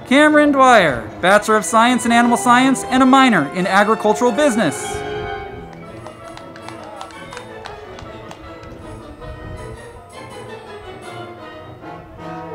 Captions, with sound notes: Camryn Dwyer, Bachelor of Science in Animal Science and a Minor in Agricultural Business. (band music) (crowd clapping)